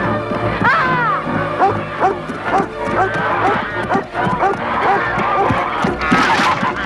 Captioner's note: horse neighing; Beast barking; Hundra shouts; wood cracking